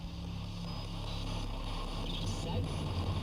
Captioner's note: static